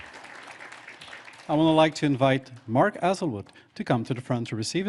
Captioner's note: applause